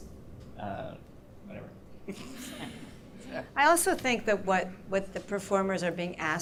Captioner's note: laughter